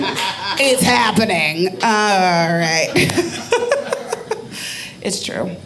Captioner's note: audience laughing; laughing